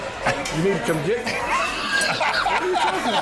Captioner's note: laughter